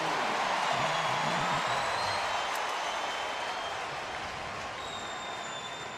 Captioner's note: crowd cheering